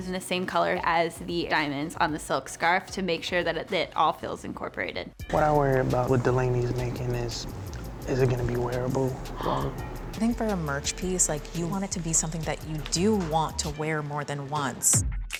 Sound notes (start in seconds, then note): 9.3 gasps; 14.9 hip hop music plays